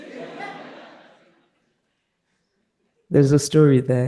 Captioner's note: participants laughing